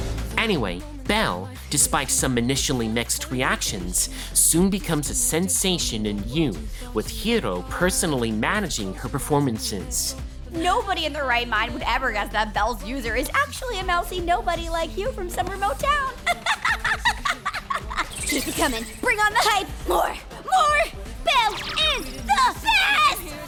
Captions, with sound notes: Anyway, Belle, despite some initially mixed reactions, soon becomes a sensation in U, with Hiro personally managing her performances. Nobody in their right mind would ever guess that Belle's user is actually a mousey nobody like you from some remote town! (laughing) Keep it coming! Bring on the hype! More! More! Belle... is... THE BEST!!!